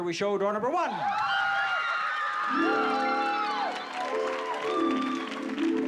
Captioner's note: screaming